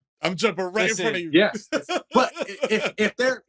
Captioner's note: laughter